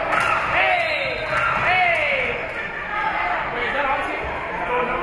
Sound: whistle being blown

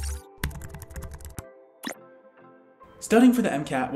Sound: gentle electronic music; keyboard clacking

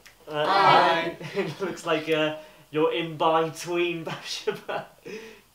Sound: chuckling

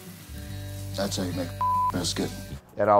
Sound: beeps

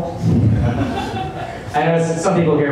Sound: laughter

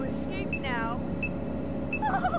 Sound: high pitched laughter

